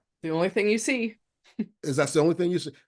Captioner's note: chuckles